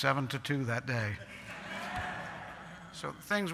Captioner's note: laughter